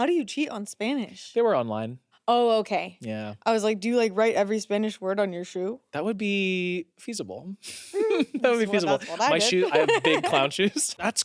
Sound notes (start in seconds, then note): 7.9 laughs